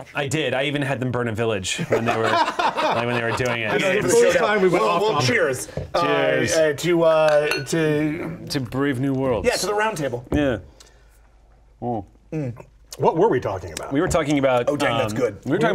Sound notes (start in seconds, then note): 1.9 laughing; 7.4 glasses tap each other